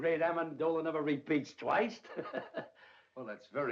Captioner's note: chuckles